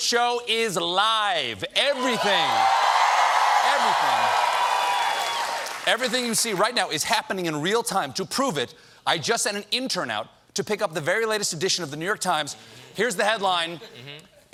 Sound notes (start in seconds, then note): 5.1 cheers and applause